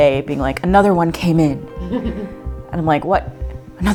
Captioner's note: chuckles